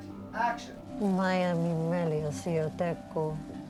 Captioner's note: speaking alien language